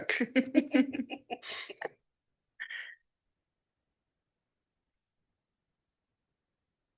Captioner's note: laughing